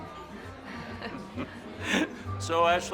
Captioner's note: all chuckling